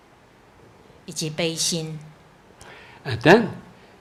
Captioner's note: woman speaking foreign language